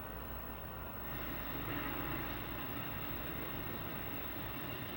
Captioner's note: faint buzzing